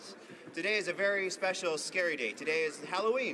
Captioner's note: speaking native language